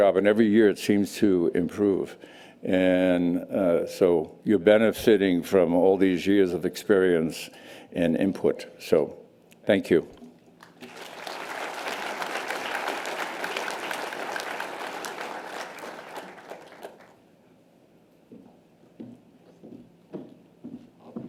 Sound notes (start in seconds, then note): 10.6 audience applause